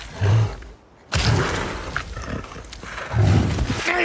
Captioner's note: bear grunting